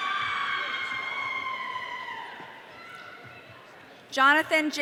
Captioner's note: audience cheering